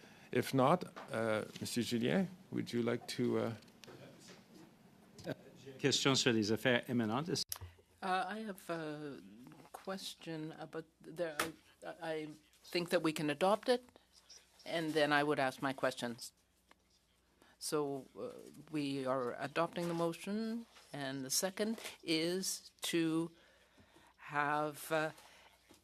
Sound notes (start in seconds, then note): 14.1 speaking French